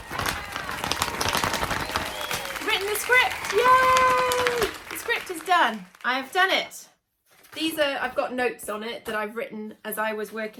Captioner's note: applause